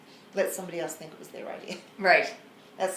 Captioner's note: laughs